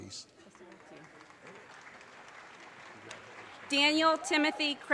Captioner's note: audience cheers and applause